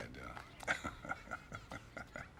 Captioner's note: chuckles